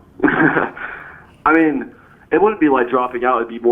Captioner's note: laughs